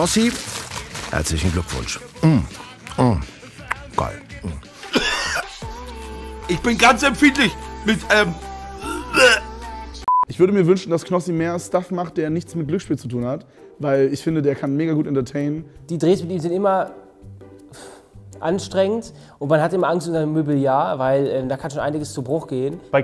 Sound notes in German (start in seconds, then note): 3.6 Schmatzen; 4.8 Husten